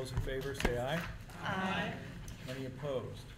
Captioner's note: chorus of ayes